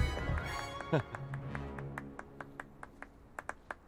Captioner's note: chuckles